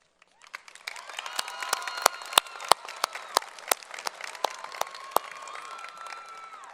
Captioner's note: applause